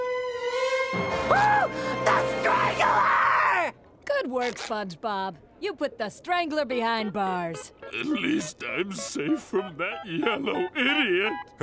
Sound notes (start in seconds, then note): 0.9 screaming